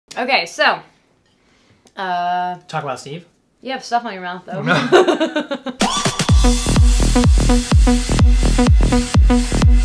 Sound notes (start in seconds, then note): 4.6 laughs; 5.8 electronic dance music